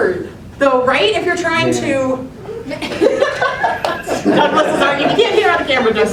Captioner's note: laughter